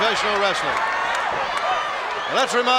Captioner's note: crowd shout